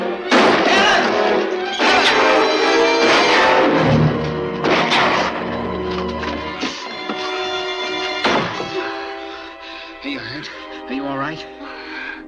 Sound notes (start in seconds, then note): 0.3 gun fires